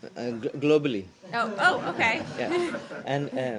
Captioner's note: laughter